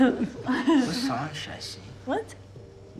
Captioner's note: friends laugh